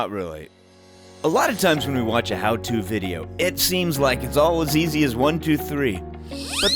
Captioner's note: whee whistle